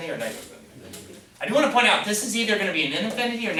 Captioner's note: voiceover